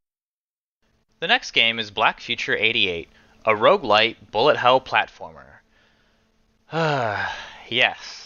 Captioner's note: sigh